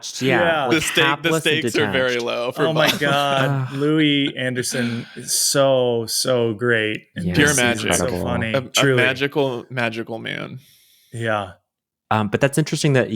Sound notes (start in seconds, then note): 3.2 sighing